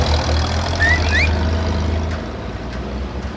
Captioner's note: Tink whistling